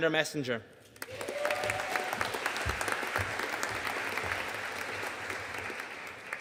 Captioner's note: audience cheering and applauding